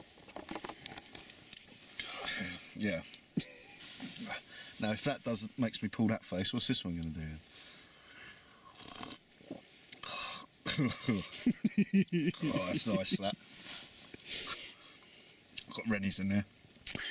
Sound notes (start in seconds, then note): 8.5 slurp; 10.6 laughs